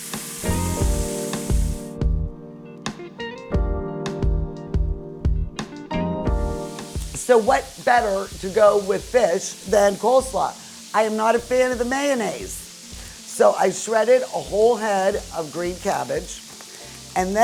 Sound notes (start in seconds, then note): 0.1 soft music; 6.7 oil sizzling in the background